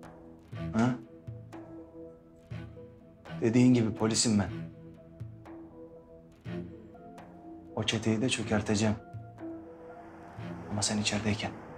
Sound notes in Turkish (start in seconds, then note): none